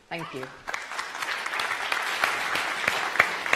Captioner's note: applause